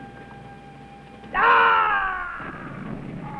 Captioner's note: yell